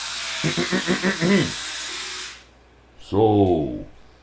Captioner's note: clears throat